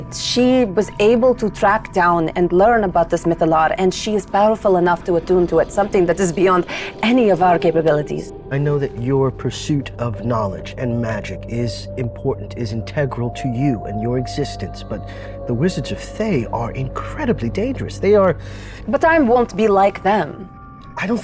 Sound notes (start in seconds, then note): none